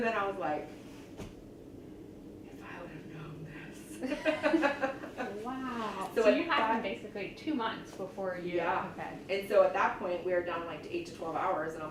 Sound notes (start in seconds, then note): 6.8 interviewer laughs